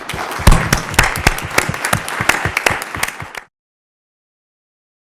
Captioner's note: applause